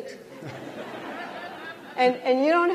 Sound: laughter

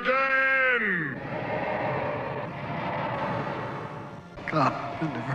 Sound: chanting

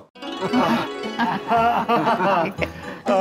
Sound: laughing

